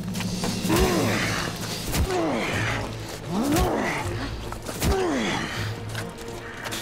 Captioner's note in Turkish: Yumruk sesleri